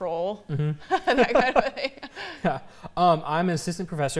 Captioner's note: laughter